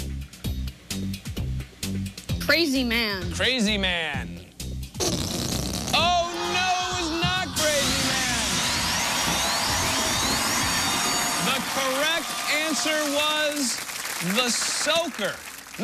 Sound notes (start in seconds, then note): 4.8 farting noise; 7.3 alarm sounds